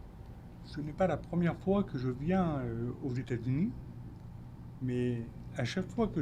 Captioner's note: speaking French